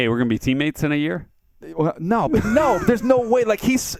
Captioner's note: laughs